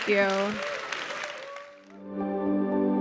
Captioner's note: audience applauding; bright music